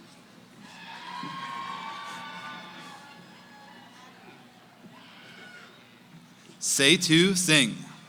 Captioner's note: cheering